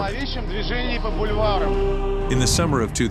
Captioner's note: speaking Russian